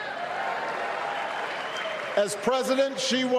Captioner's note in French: applause